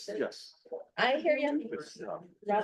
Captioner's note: chatter